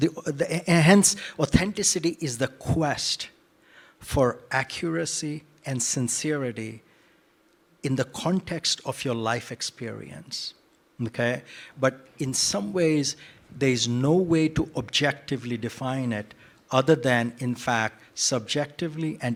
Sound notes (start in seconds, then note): none